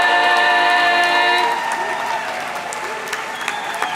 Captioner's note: audience clapping; audience cheering